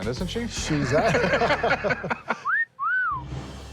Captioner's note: laughter